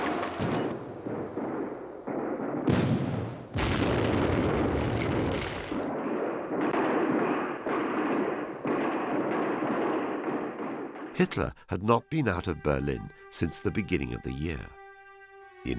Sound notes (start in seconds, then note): 2.5 heavy artillery booming; 6.5 guns blasting